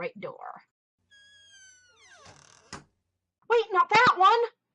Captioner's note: door creaks shut